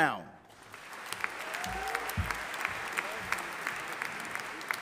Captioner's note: audience applauding